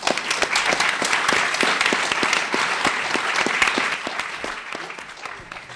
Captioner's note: applause